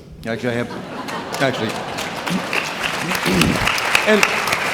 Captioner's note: audience clapping